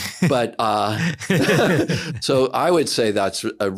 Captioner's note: laughs